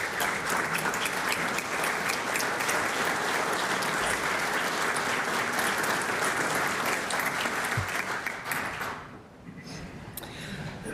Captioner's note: applause